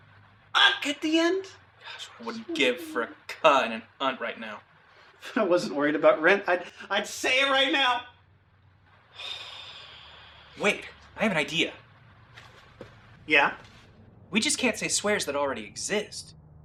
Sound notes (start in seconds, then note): 9.2 sighs